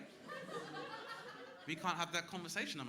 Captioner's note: crowd laughing